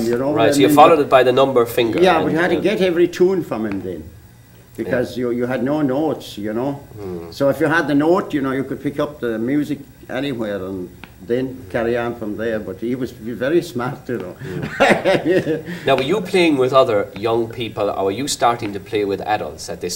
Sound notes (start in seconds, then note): 14.4 laughter